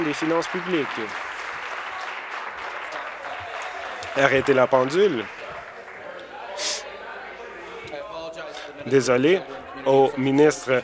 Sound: applause

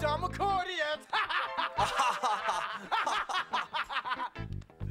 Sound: laughing

